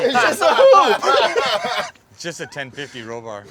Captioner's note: everyone laughing